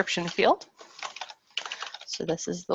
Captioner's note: keyboard keys clacking